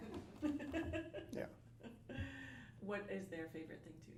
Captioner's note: laughter